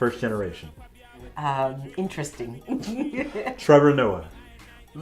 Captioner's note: laughs